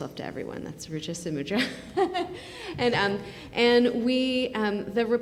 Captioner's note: laughing